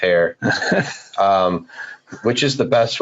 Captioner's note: laughing